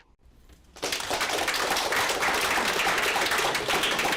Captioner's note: applause